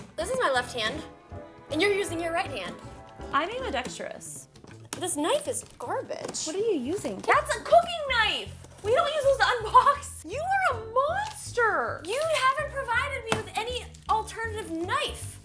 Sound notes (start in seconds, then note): 10.0 laughs